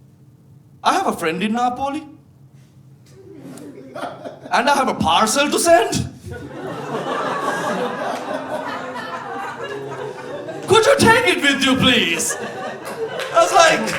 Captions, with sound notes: "I have a friend in Napoli and I have a parcel to send." (audience laughing) "Could you take it with you, please?" I was like...